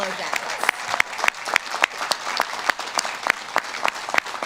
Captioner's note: audience claps